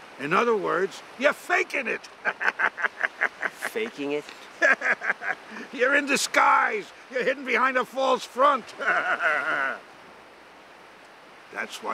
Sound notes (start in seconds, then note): 2.2 laughs